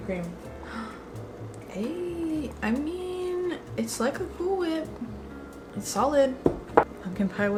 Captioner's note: gasp